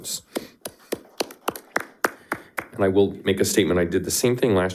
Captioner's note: people clapping